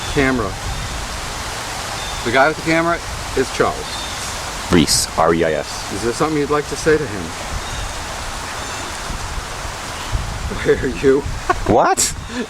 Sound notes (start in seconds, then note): 7.6 birds Chirping, Wind; 10.6 laughing